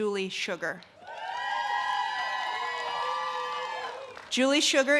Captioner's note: audience cheers and claps